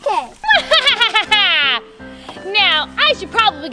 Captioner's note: laughs